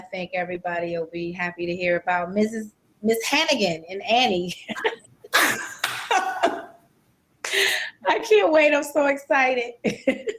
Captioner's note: laugher